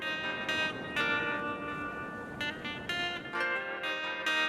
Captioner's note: waves crashing